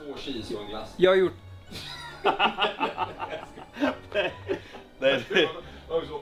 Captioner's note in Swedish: Skratt